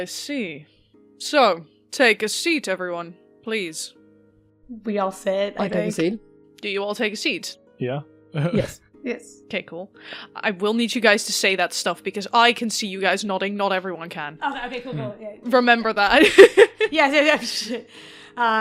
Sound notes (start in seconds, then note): 8.6 chuckles; 16.2 laughs